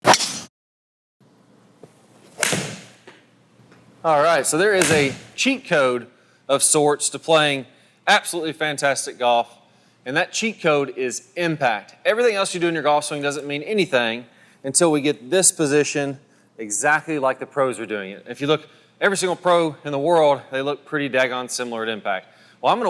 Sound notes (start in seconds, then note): 0.0 golf ball whizzing; 2.2 golf ball clacking; 4.1 voiceover; 4.2 golf ball clacking